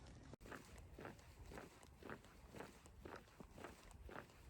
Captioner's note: footsteps